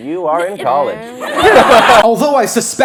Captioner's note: laughter